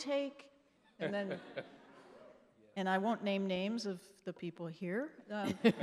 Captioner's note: laughing; laughing